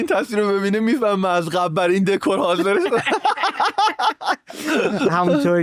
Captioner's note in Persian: خنده